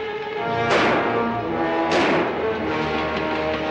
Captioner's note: gunshots